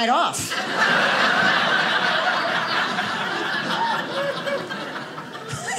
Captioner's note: audience laughing